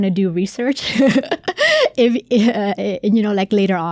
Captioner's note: laughing